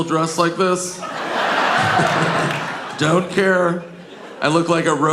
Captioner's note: audience laughing